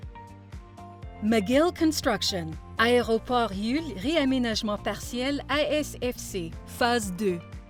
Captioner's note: speaking in foreign language